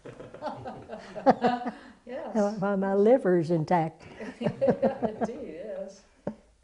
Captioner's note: laughter; laughter